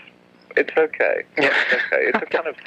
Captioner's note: laughs